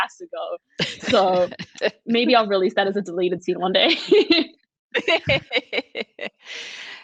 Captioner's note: all laughing